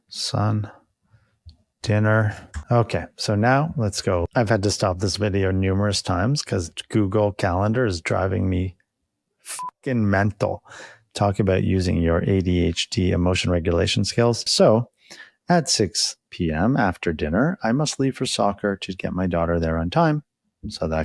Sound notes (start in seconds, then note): 9.5 beep